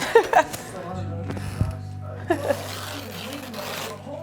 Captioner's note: laughs